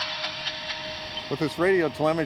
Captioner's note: radio hisses